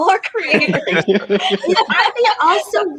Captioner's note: laughing